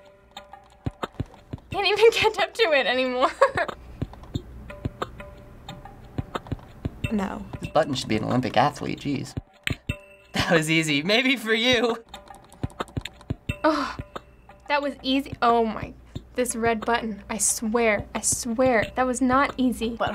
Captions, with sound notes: - Can't even catch up to it anymore. (chuckles) - No. - This button should be an Olympic athlete, jeez. "That was easy." Maybe for you! (rapid clicking) (scoffs) "That was easy." Oh my-- this red button, I swear. I swear. That was not easy.